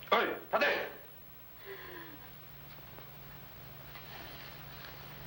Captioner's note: speaking foreign language